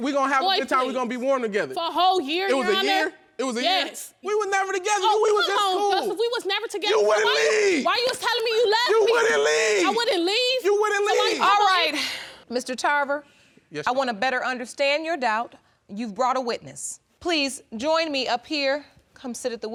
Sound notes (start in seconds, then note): 7.3 yelling